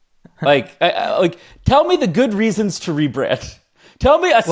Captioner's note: laughs